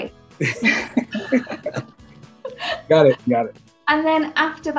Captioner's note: both laughs